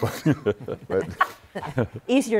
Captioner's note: laughter